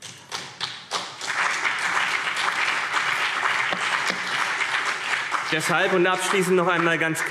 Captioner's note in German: Beifall CDU und BÜNDNIS 90/DIE GRÜNEN